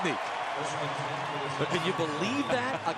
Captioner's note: pa announcement